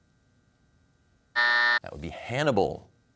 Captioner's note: buzzer sounds